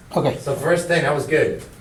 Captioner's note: voiceover